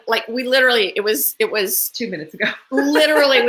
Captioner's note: laughs